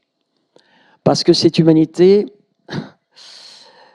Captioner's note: sigh